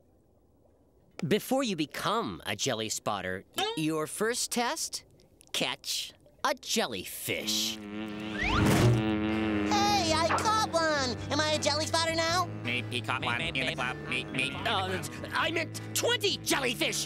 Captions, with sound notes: Before you become a Jelly Spotter, your first test, catch a jellyfish. [buzzing] Hey, I caught one. Am I am Jelly Spotter now? Meep meep. He caught one. Meep. Uh, I meant 20 jellyfish.